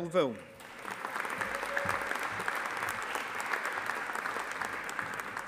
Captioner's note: audience applauding